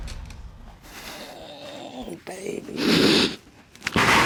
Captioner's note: sobbing